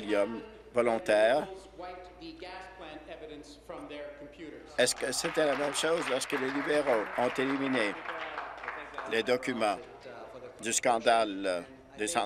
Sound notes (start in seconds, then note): 7.6 applause